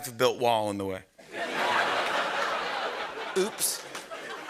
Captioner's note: laughter